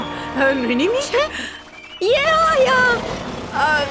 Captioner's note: Kaufo growls